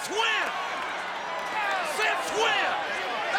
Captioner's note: audience cheers